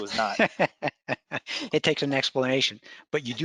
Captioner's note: laughs